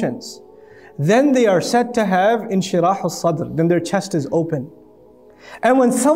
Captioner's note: Arabic